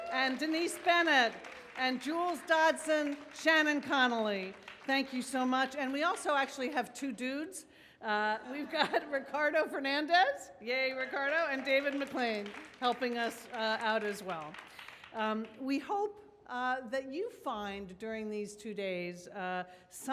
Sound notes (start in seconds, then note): 7.8 audience laughs; 14.4 audience claps